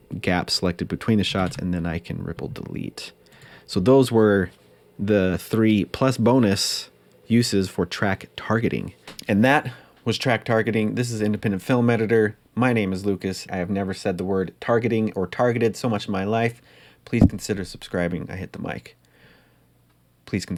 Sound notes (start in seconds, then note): 17.2 mic hit; 19.0 awkward pause